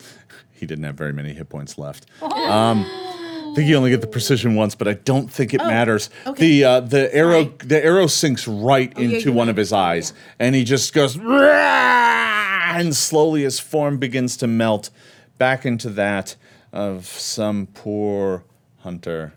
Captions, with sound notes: - He didn't have very many hit points left. (gasping) I think you only get the precision once, but I don't think it matters. The arrow sinks right into one of his eyes, and he just goes (roaring) and slowly his form begins to melt back into that of some poor hunter,